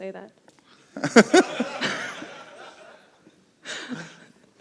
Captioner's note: laughter